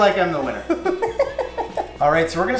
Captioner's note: laughs